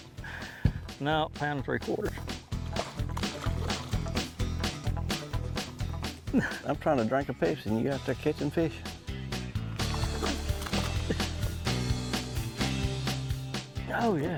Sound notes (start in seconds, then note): 0.0 upbeat country music; 2.7 water splashing; 3.2 upbeat country music; 9.8 water splashing; 10.9 upbeat country music